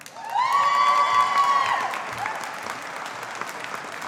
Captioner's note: audience applauding